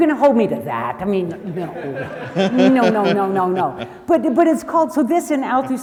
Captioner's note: audience laughs